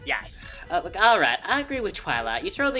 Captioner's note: sighs